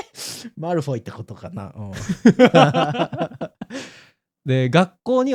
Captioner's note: laughter